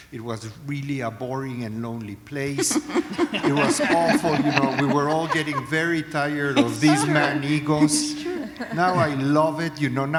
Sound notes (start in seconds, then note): 2.6 laughter